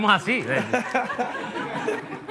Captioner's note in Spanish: Risas